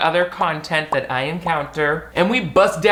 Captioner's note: bubbles pop